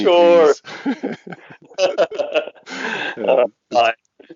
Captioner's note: both laugh